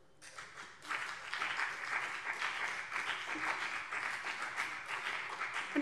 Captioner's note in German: Beifall BÜNDNIS 90/DIE GRÜNEN und vereinzelt CDU